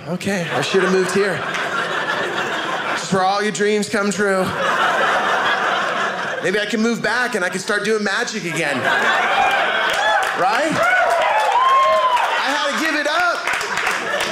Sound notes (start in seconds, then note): 4.2 audience laughing; 8.8 audience laughing; 10.8 audience cheering; 12.2 audience laughing